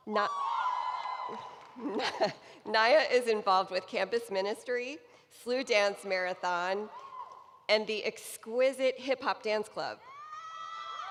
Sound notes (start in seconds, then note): 6.2 cheering